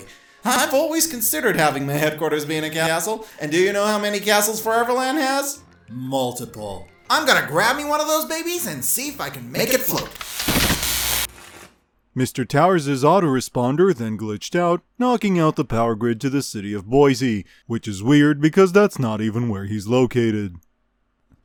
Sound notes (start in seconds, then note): 9.8 electricity flaring up